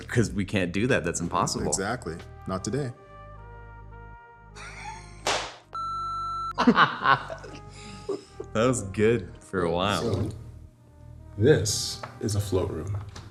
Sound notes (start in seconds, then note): 5.2 loud slap; 5.7 beep; 6.6 laughs